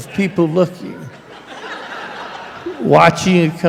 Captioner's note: laughter